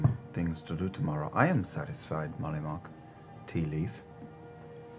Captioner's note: none